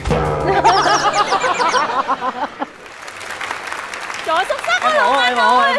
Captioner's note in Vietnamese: Tiếng cười